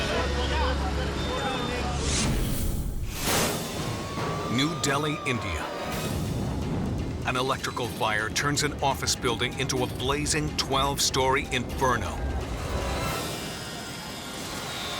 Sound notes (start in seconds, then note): 1.9 logo squishes; 12.2 upbeat music